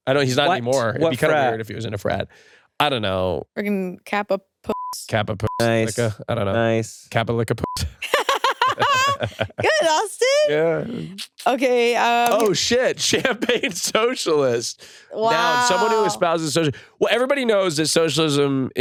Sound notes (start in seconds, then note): 4.7 beep; 7.6 beep; 8.0 laugh